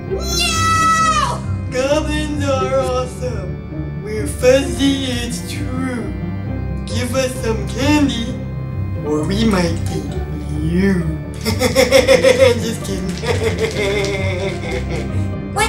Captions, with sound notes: NO! Goblins are awesome. We're fuzzy it's true. Give us some candy, or we might eat you... [laughing] Just kidding. [laughing]